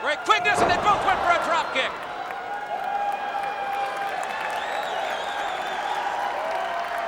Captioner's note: crowd cheering; body thudding